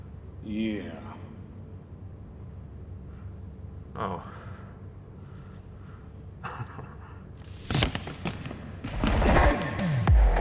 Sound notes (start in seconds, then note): 6.3 sheepish chuckle; 8.1 case slamming